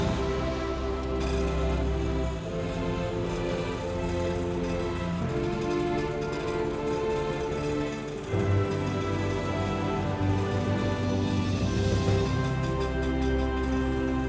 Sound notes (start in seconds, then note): none